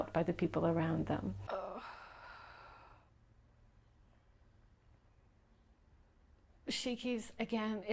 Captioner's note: sounding like she's in pain